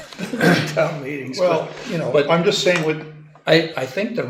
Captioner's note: laughs